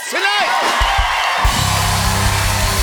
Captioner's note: cheers and applause